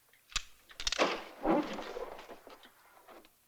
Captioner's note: door opening